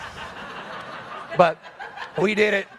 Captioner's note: audience laughs